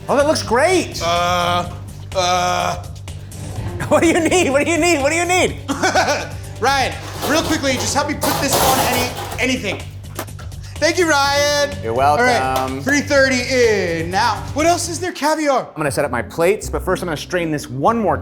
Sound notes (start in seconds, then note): 6.0 laughs